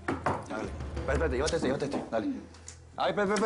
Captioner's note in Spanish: Toques en la puerta